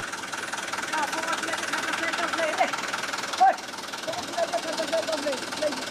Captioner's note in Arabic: صوت خشخشة محرك الشاحنة